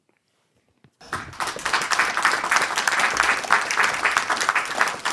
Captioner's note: audience clapping